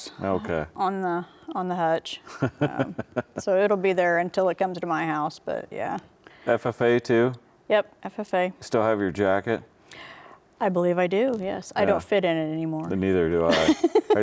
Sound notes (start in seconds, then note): 2.3 laughs; 13.5 laughs